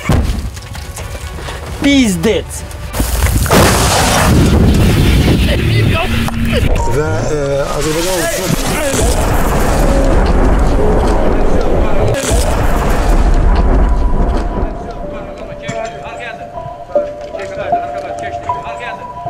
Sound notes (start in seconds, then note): 0.3 explosion; 6.8 speaking Azerbaijani; 13.4 sad music; 13.4 speaking Azerbaijani